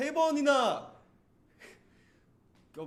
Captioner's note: laughs